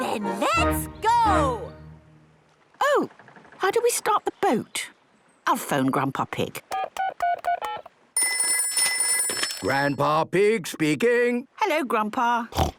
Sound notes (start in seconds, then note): 8.2 ringing; 8.2 dial tones beeping